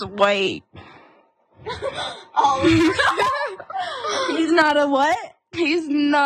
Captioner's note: laugh